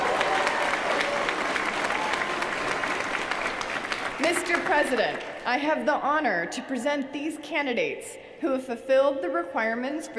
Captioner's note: applause